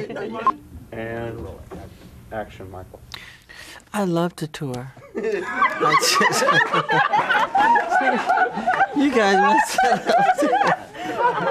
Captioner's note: laughs